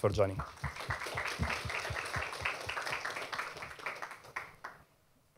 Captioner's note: applause